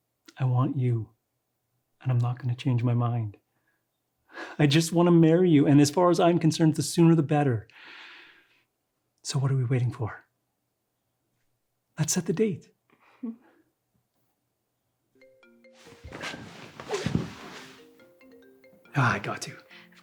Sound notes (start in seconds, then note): 15.3 phone ringing